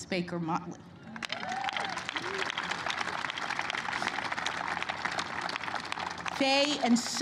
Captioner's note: applause